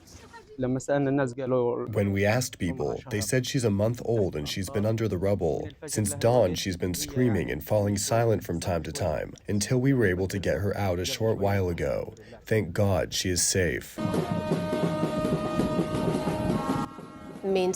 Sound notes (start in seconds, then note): 2.5 through translator